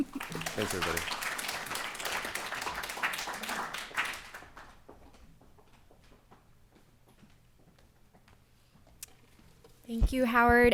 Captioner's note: applause